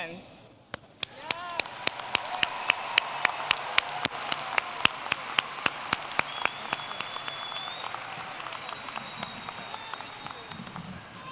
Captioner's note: applause